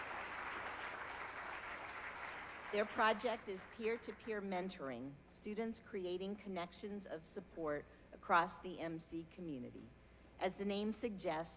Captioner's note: applause